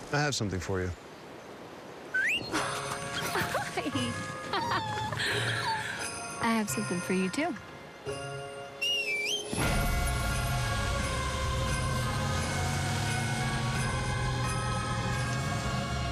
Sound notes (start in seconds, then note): 2.1 whistles; 5.4 joyful laughter; 8.6 whistles